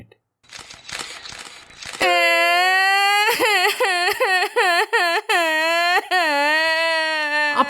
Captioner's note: crying sound